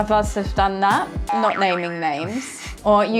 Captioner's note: chuckling